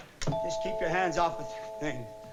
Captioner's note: doorbell ringing